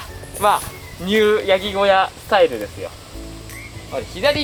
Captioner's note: laughs